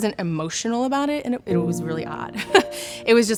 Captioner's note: chuckles